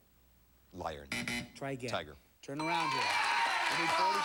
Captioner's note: buzzer